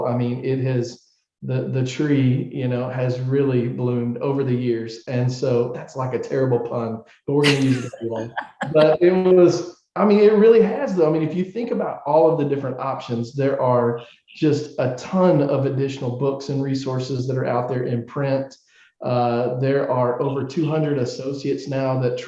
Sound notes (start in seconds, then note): 7.3 laughing